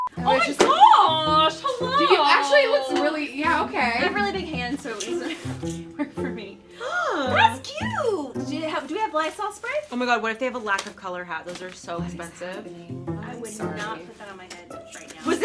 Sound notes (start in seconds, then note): 4.9 laughs; 6.7 gasps